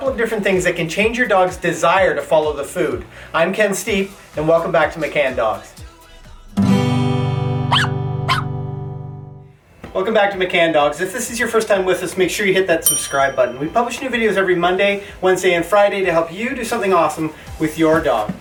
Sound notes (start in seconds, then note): 6.5 guitar strumming; 7.6 dog barking